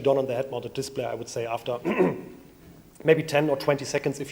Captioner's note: clears throat